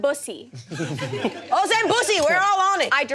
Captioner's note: audience laughs